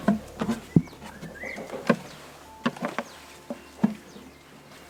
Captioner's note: birds chirping